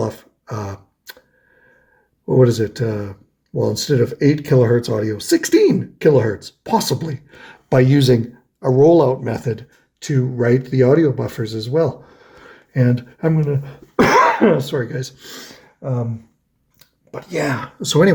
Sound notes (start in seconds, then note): 13.8 coughs